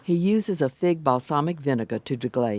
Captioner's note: voiceover